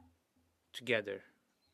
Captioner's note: speaking French